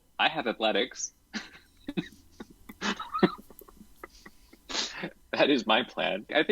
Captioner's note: chuckles